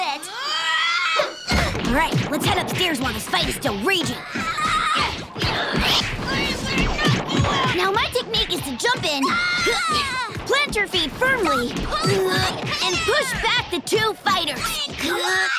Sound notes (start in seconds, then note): 0.1 screaming; 4.2 screaming